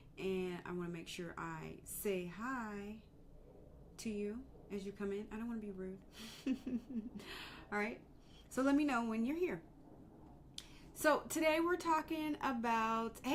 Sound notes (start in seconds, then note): 6.2 chuckling